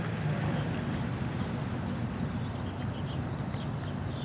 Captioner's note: birds chirping